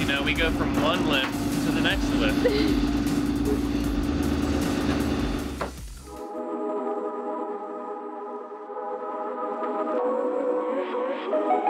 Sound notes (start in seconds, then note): 2.2 laughs; 4.5 loud mechanical noise